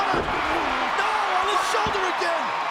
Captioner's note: audience cheers